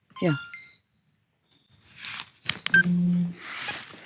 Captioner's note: camera beeping